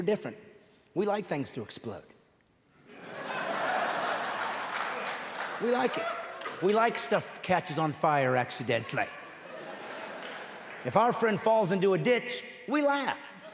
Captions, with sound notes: Men are leaving church, because they aren't connecting with men, because we're different... We like things to explode. [audience laughing and applauding] We like it. We like stuff that catches on fire accidentally. [audience laughing]